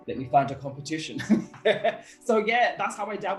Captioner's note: laughter